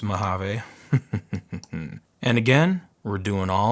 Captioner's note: laughing